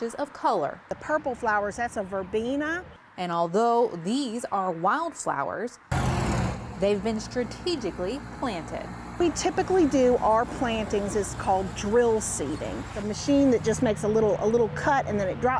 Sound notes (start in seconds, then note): 2.3 nat Sound: cars on roadway; 5.9 nat Sound: cars on roadway